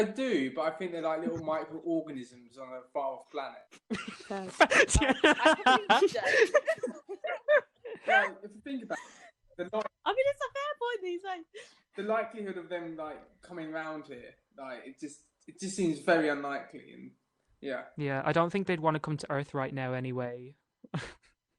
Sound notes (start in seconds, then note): 3.7 laughter